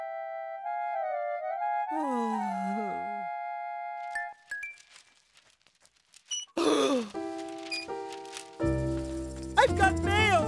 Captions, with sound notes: (Gasping) I've got mail! I've got mail! Maggie was right! I wonder who it's from.